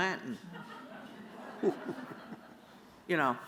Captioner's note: laughter